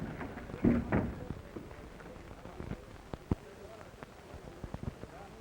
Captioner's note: people chattering